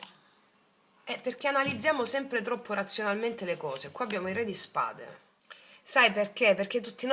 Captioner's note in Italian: schiarire la voce